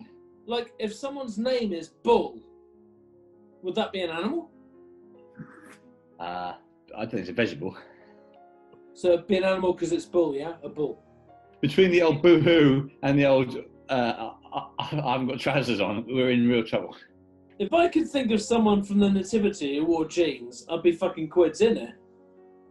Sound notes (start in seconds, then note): 5.4 chuckling